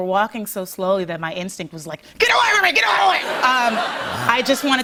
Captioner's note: laughter